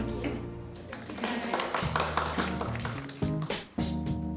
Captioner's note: applause